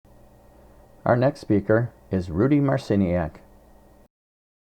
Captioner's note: voiceover